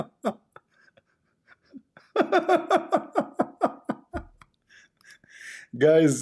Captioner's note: Ketawa